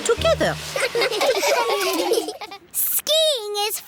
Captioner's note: laughing